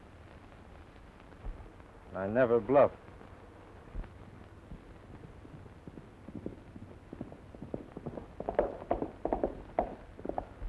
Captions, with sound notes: - I never bluff. (horse hooves clomping)